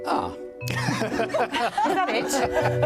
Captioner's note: laughs